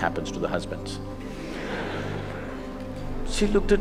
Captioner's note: laughter